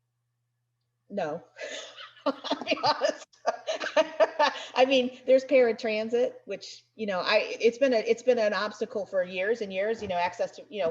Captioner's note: laughs